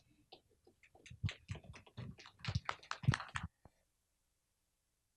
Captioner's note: applause